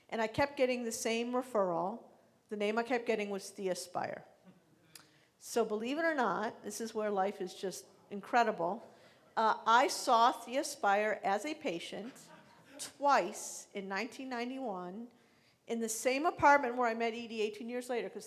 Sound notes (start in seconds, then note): 12.1 laughing